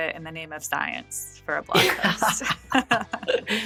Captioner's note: <Laugh>